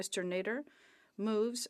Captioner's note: speaking French